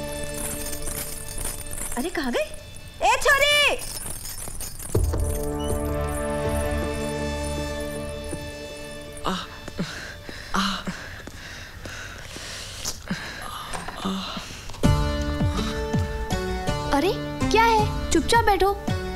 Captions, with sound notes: Where did she go? Girl... (Groans) What? Sit quietly.